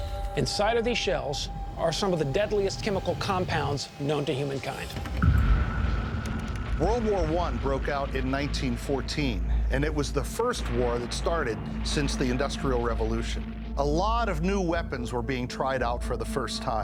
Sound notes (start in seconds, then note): 5.0 cannons blasting